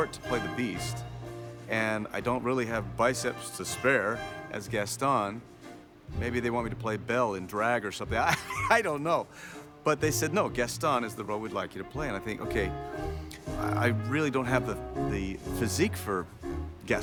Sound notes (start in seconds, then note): 8.3 laughs